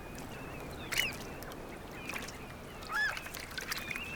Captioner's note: birds crying